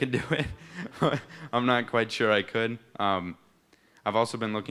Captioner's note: laughs; chuckles